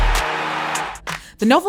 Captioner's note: cheering